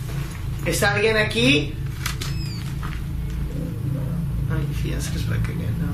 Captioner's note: speaking in foreign language